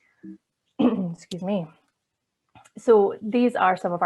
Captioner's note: coughs